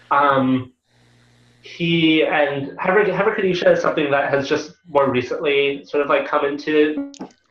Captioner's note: Hebrew